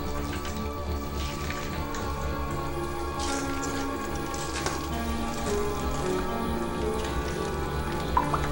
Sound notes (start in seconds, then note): 3.5 water splashing